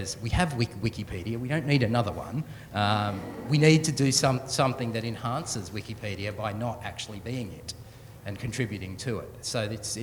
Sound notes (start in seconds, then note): 3.0 soft chuckling